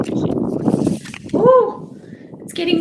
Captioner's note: strong wind blows